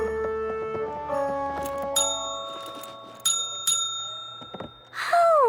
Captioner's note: ding, ding-ding